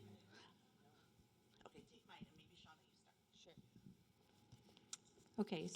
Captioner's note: background Discussion